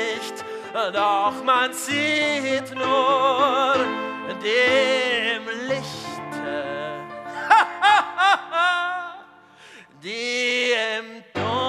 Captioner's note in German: lacht